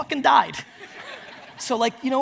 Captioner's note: audience laughs